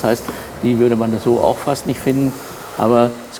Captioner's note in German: none